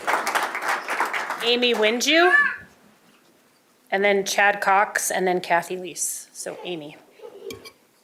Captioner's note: applause